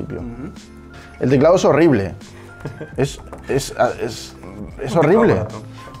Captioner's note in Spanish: heheh